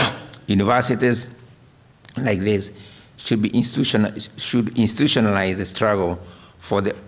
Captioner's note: coughs